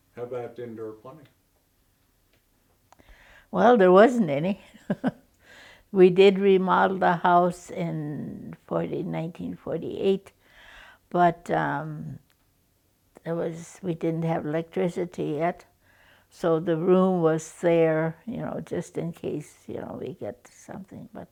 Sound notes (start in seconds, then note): 4.7 chuckles